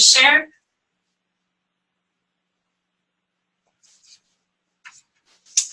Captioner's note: pause